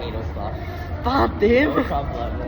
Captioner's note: Cantonese